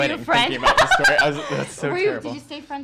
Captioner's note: laughter